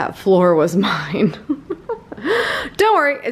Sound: laughing

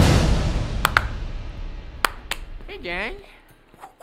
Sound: claps

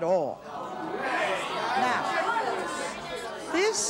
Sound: audience clamors

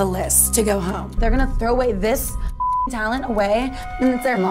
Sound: beep

